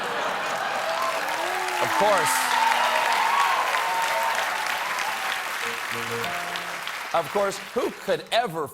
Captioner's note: cheers and applause